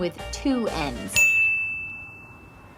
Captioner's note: ding!